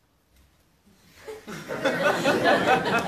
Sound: laughter

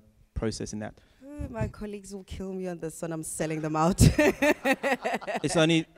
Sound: laughs

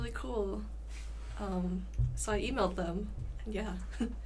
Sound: chuckles

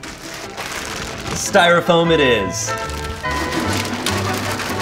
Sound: plastic rattling; jaunty music; plastic rattling

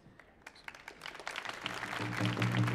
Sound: audience applauding; drum rolls

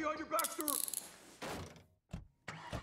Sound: handcuffs locking; car doors close

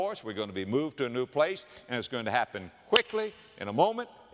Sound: clap

